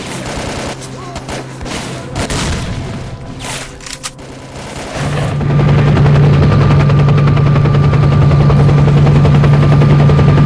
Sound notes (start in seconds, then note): 4.1 helicopters take-off